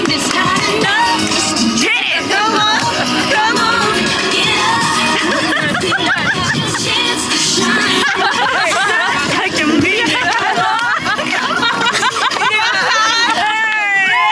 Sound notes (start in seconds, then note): 5.0 laughs; 7.8 all laugh; 11.9 all cheer